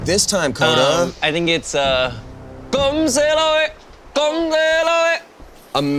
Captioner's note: chants